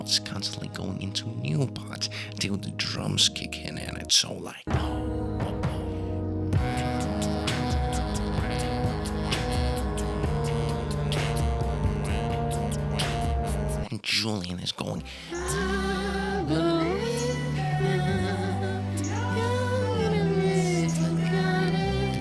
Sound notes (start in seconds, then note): 6.4 mmmmmmmm